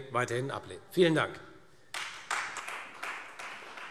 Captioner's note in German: Beifall Freie Demokraten